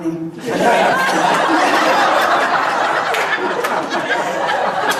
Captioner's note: audience laughs